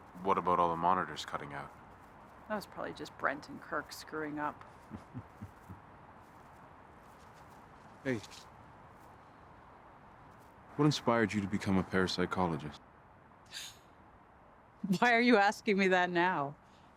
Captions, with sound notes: What about all the monitors cutting out? That was probably just Brent and Kirk screwing up. [laughing] Hey. What inspired you to become a parapsychologist? [chuckles] Why are you asking me that now?